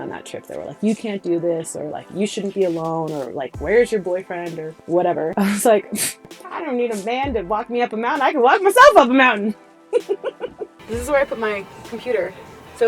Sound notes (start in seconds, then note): 9.9 laughter